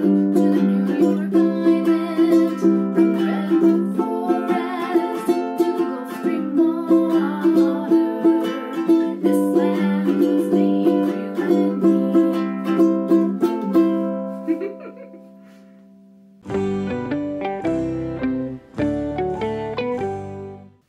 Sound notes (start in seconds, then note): 14.4 laughs; 16.4 transition Music